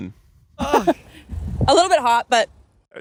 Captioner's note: groaning